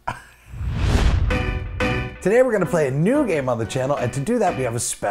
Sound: swoosh / music plays

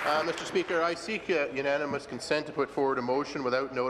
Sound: applause

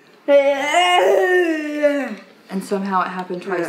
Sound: vocalizes

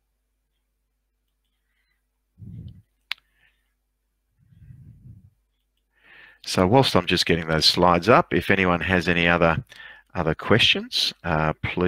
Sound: silence

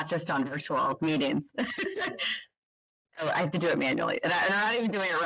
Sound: chuckles

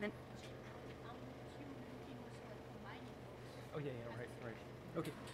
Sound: speaks off microphone

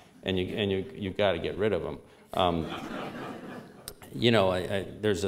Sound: laughter

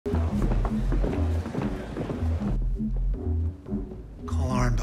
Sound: anxious music; footsteps plod

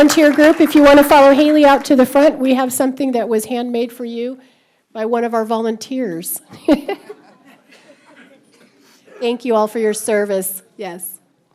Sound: laughter; applause

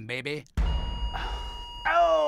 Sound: EKG flatlining

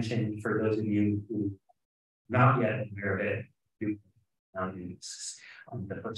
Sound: speaking faintly

